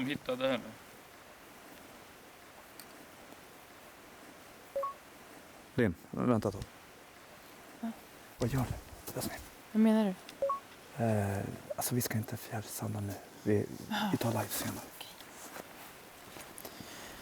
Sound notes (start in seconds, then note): 4.7 camera beeps; 10.4 camera beeps